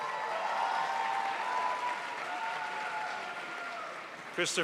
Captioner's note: crowd applauds